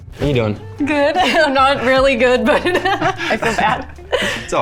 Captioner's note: laughs